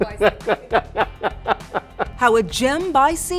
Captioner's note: laughing